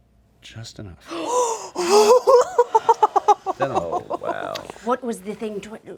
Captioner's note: gasps; laughing